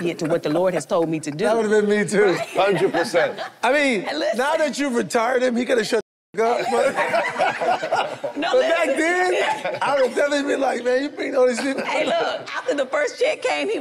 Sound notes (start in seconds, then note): 6.4 group laughs